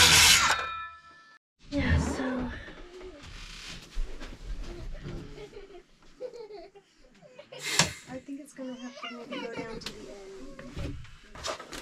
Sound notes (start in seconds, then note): 4.6 sound of giggling as they play on the back bed